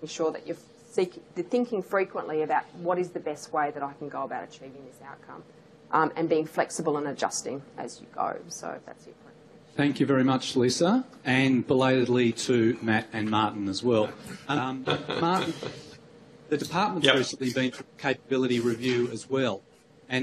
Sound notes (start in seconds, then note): 9.3 audio quiets